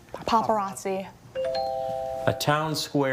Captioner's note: text chiming